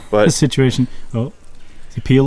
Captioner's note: laughs